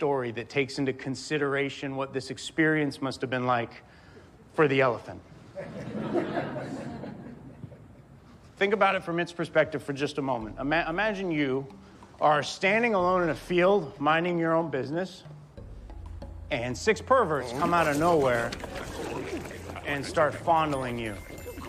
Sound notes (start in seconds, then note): 5.4 audience laughs